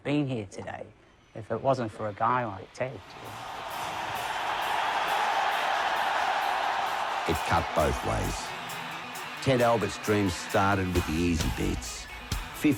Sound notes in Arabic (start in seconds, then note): 7.2 هتاف الجمهور